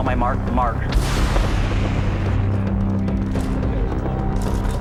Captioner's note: rocket roaring; cameras clicking